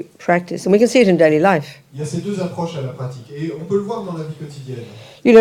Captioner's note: French